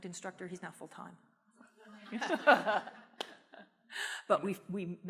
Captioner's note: laughter